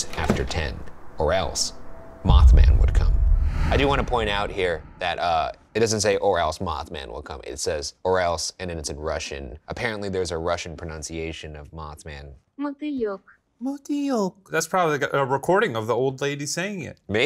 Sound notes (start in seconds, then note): 12.9 computer speaking in foreign language; 13.8 speaking in foreign language